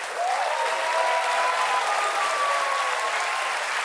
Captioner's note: cheers and applause